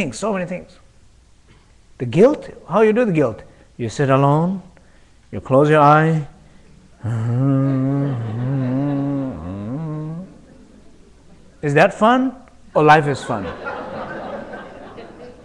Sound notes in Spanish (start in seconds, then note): 10.1 quejidos